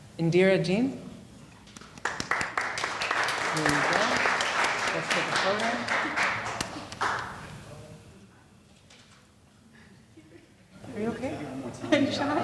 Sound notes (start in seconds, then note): 1.8 audience applauding